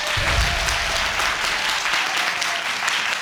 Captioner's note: audience applauding